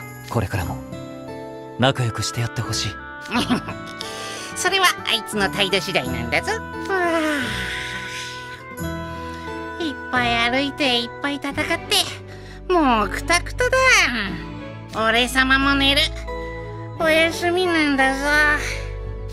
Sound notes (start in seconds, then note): 7.1 yawn